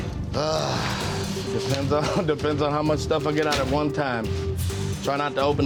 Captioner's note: suspenseful music; sighs